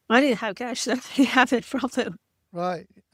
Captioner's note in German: lacht